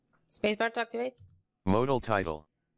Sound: keyboard clicks

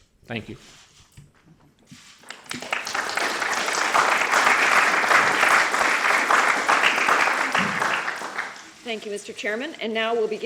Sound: applause

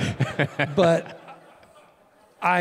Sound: Tim laughing

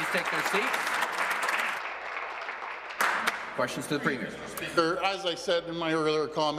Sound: some Applause

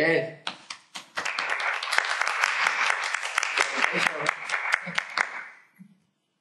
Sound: applause

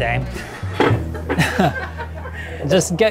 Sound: group chuckling

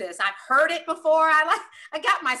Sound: laugh

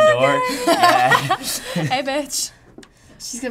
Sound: laughs; chuckles

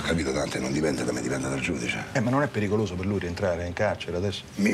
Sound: none

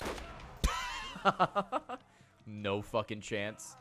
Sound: laughs

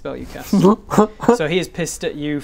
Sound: happy Bob noises

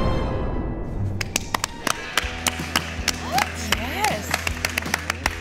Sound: applause

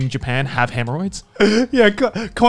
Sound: laughing

